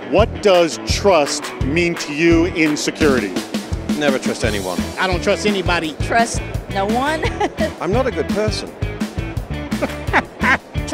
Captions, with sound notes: What does trust mean to you in security? - Never trust anyone. - I don't trust anybody. - Trust no one. (laughs) - I'm not a good person. (chuckles)